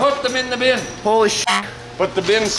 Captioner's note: beep